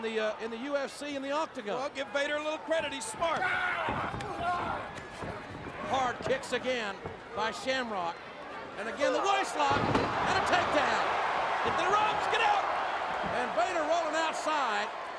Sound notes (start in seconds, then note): 3.8 kicks thwacking; 3.9 Vader bellows